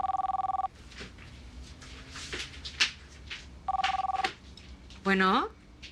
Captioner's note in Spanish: Suena el teléfono